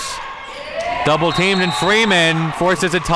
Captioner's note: whistle blows